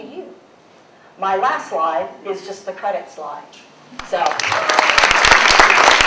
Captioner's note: applause